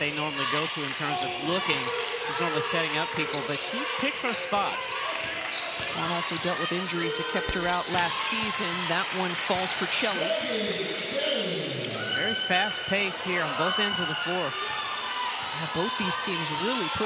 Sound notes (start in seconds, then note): 5.5 crowd noise